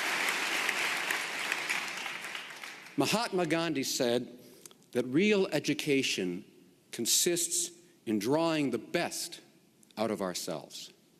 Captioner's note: applause